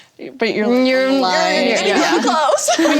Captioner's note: all laugh